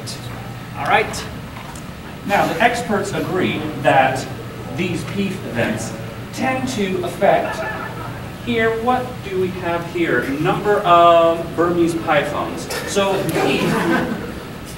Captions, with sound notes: - Alright. - Now experts agree that these Peef events tend to effect--here, what do we have here--number of...Burmese Pythons. (audience chuckling)